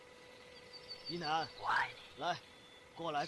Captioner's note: whisper